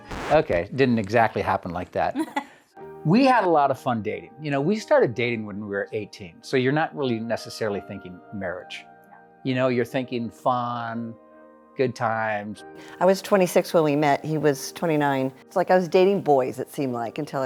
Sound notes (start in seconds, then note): 2.1 laughs